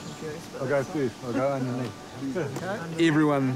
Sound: chuckles

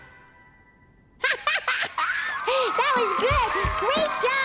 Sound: laughing

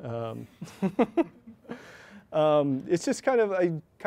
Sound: chuckles

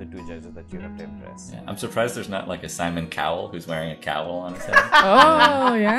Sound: laughter

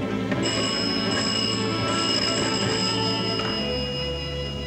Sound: phone ringing

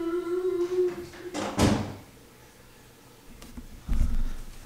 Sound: bang

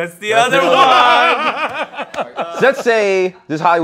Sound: laughter

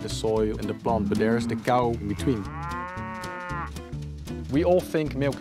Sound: cow moos

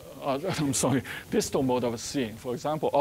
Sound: chuckling

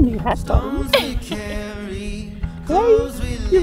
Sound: laughing

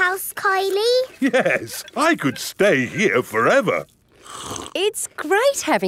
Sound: slurps

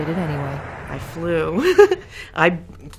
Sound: giggling

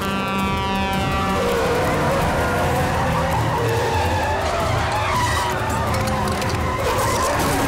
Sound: honking; tires screeching

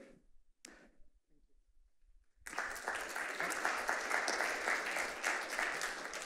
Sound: applause

